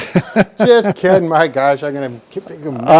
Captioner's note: laughs